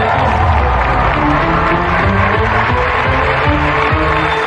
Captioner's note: cheering and applause; dramatic music